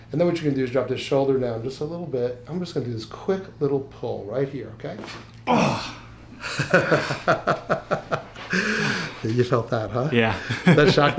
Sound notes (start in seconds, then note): 5.4 man groans; 6.4 laughs